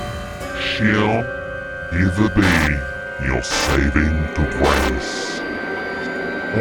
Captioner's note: menacing voice